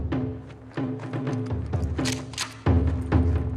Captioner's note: clicking